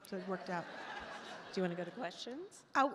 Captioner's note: attendees laugh